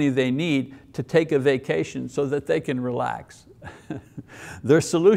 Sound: chuckles

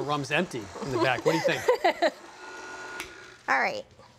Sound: laughs

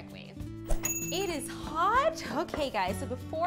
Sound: timer dings

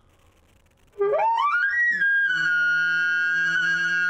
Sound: elk call

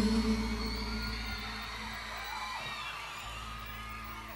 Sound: audience cheering

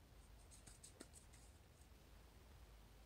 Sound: hands rubbing

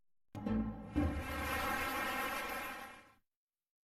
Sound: applause

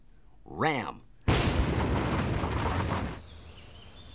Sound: crashing

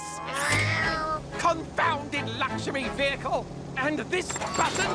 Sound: meow

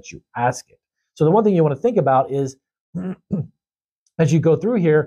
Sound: clears throat

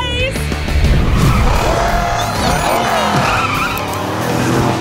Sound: cheering

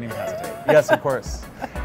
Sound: laughs

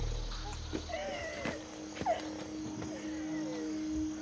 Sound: whimpering

